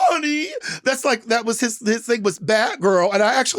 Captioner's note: none